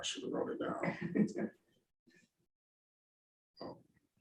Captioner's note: chuckling